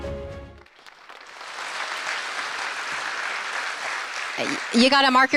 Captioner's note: applause